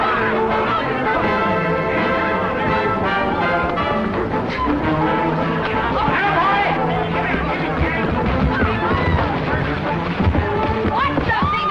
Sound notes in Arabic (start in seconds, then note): 0.8 تشغيل موسيقى درامية; 7.2 اصوات القتال